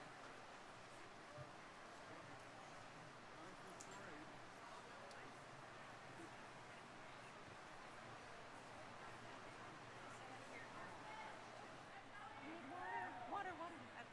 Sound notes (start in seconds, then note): 0.3 people chattering; 5.0 people chattering; 12.5 crowd cheering